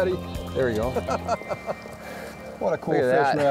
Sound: laughs

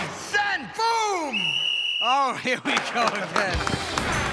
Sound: whistle blows

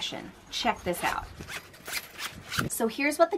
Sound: zipper zipping

